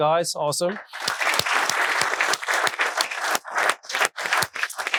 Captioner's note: audience applauding